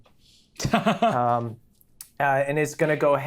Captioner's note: Brennan laughs